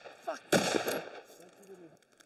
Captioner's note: gun shot